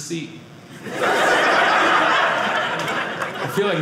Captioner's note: audience laughing